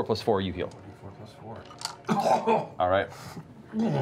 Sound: coughs

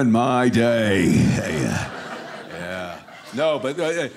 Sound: audience laughing

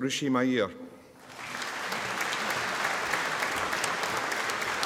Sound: audience applauding

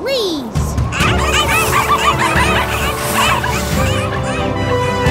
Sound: barking

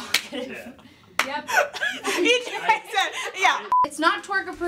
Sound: all giggling

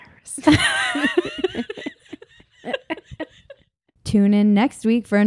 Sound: laughs loudly

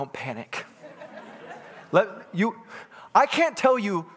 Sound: congregants laughing

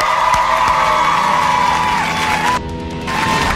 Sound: applauding; cheering

